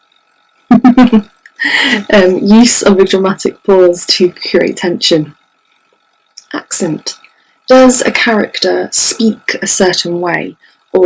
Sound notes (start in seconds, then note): 0.7 chuckles